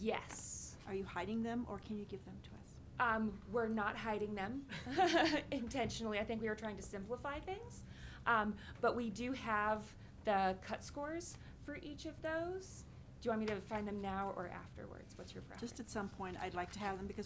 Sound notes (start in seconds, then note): 5.1 laughing